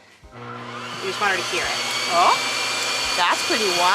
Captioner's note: whirring from blow dryer